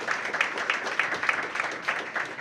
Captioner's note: applause